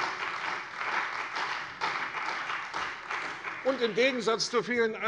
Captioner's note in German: Beifall bei der CDU und dem BÜNDNIS 90/DIE GRÜNEN